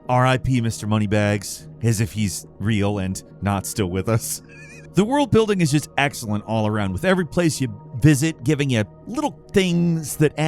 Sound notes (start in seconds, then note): 4.4 laughs